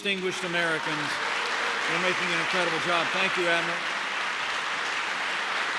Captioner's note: applause